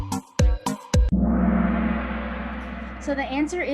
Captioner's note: gong